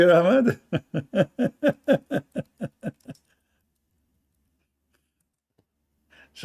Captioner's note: Ketawa